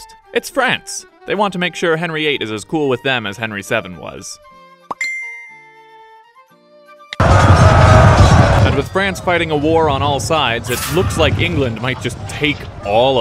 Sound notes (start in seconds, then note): 4.9 ping!; 7.2 angry war noises